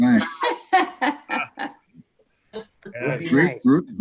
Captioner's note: laughs